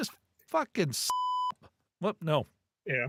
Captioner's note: beep